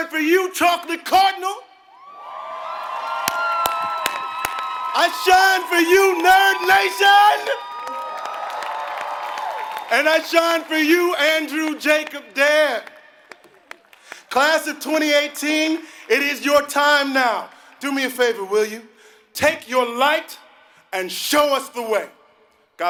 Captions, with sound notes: you Chocolate Cardinal. >> [APPLAUSE] >> I shine for you Nerd Nation. >> [APPLAUSE] >> And I shine for you, Andrew Jacob Dare. Class of 2018, it is your time now. Do me a favor, will you? Take your light and show us the way.